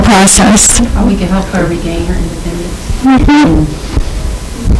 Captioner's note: students mumbling